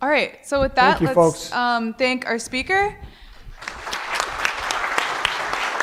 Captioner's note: audience applause